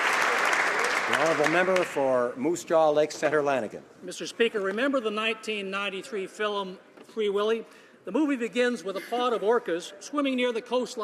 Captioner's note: applause